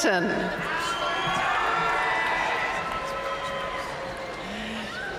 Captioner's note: audience cheering and applauding